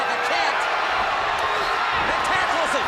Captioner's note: crowd cheering